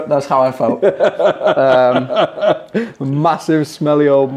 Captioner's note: laughing